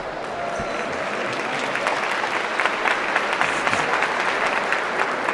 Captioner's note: audience clapping